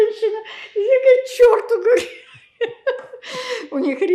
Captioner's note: laughing